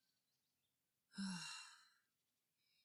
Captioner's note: sighs